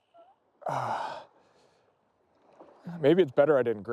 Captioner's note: sighs